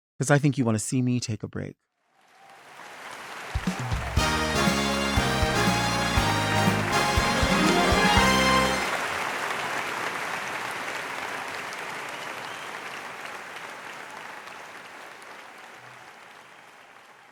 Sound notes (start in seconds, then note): 4.1 jazzy music; 8.8 audience applauding